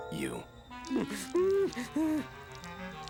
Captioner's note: whimpering